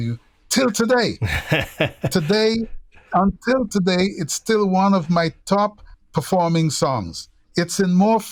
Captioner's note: laughter